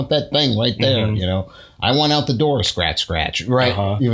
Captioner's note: scratch scratch